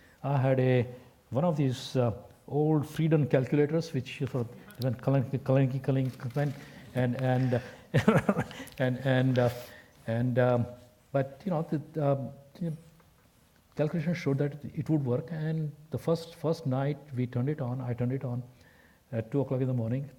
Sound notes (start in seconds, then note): 7.4 laugh